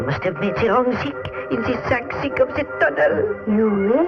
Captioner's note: none